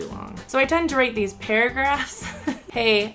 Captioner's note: laughs